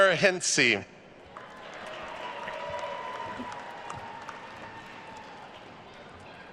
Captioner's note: attendees cheering and applauding